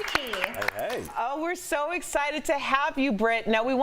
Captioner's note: applause